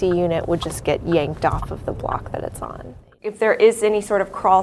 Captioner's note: car blinker flickering